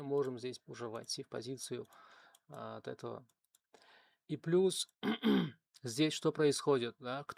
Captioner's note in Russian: откашливается; кашель